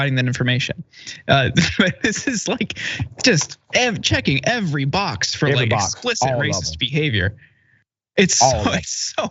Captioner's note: laugh